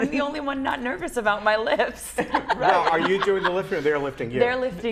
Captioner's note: laughter